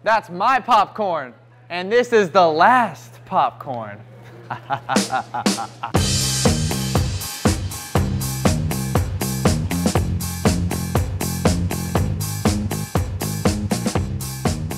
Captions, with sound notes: That's my popcorn, and this the last popcorn. (evil laughing) (upbeat music)